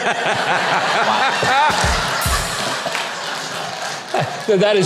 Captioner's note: audience laughing